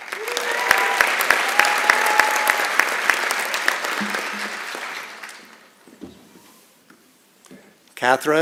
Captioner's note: applause and Cheering